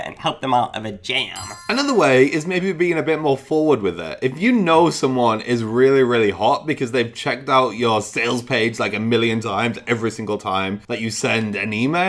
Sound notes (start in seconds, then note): 1.4 magical jangling